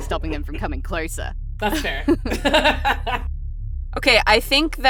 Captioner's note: laughs